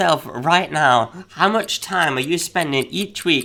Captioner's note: clock ticks